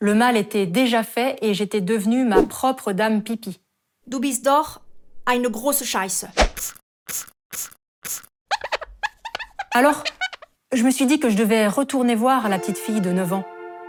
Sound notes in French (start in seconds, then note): 7.2 en allemand